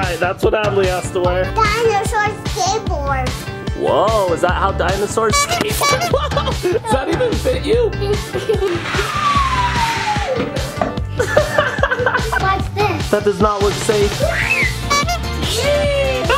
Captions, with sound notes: - All right that's what Adley has to wear - Dinosaur, skateboards - Whoa, is that how dinosaurs skateboard? Does that even fit you? - Nop (laughs) - Watch this - That does not look safe.